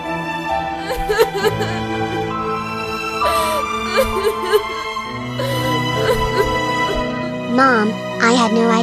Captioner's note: crying